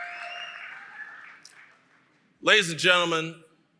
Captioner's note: applause & Cheering